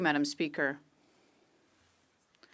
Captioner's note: speaking French